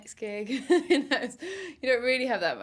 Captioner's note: chuckles